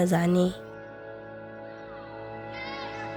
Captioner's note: a child speaking in local dialect